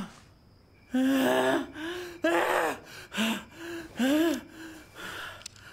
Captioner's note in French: Pousse des cris énervés